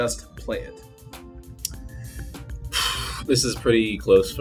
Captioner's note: sigh